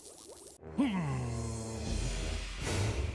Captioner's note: grunting